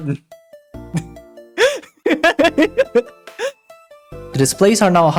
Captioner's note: laughing